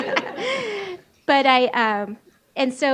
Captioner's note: laughs